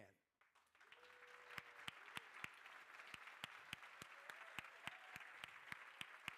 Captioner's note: crowd cheering and applauding